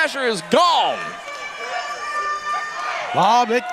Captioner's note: crowd shouting